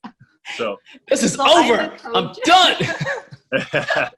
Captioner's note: laughs; laughing